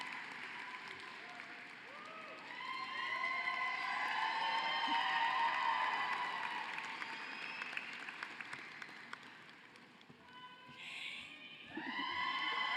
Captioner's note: cheering and applause